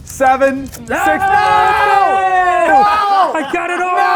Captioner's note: cheering